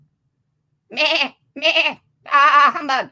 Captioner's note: baaing